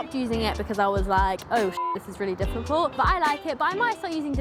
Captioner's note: beep